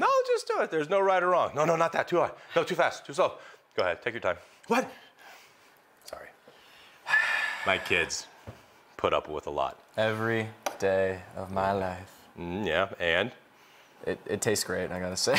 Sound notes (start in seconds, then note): 7.0 sighs